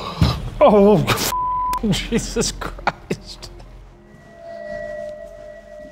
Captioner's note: beep; laughing